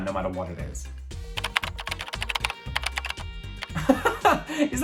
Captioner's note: keyboard clacking; laughing